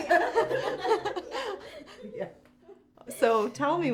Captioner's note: laughing